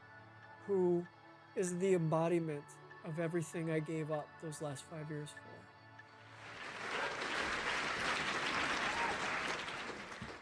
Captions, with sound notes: who is the embodiment of everything I gave up those last five years for. [AUDIENCE APPLAUDING]